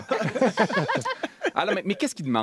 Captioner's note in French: rires